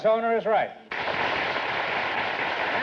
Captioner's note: applause